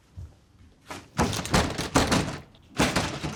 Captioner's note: door banging